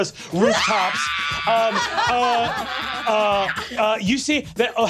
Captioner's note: screeching